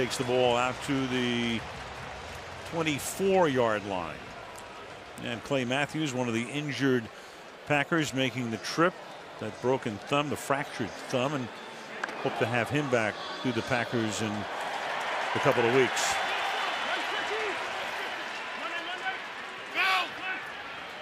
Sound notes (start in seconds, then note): 15.0 cheering